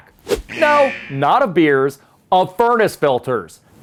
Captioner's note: alarm buzzes